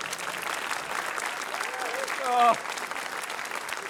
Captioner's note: laughter, applause